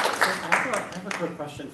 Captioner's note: applause